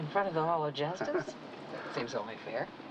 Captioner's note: chuckles